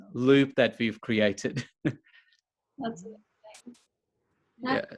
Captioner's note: chuckles